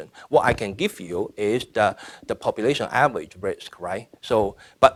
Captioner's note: none